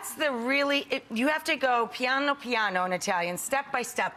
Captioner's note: speaks in foreign language